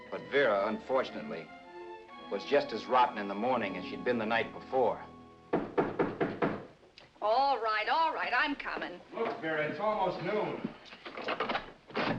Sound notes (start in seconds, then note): 5.5 knocking